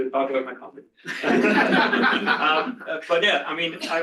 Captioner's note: laughter